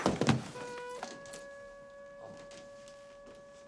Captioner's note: bag thuds